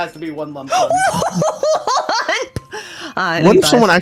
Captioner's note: bewildered peanut gallery noises